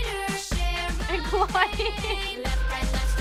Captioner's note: laughs